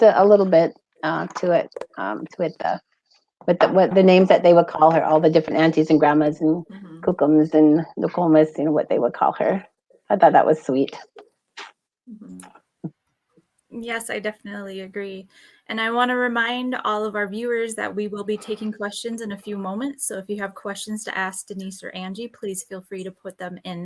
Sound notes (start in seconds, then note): 7.2 speaking Ojibwe